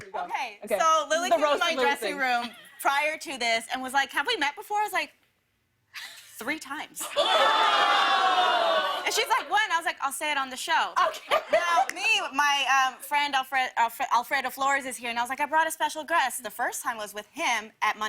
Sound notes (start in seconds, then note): 7.1 audience "Oohs"; 11.0 laughter